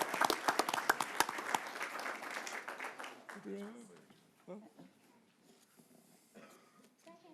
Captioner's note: applause